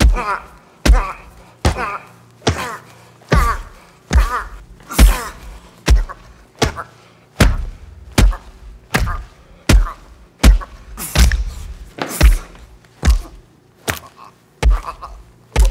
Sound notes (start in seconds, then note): 2.6 Robin grunting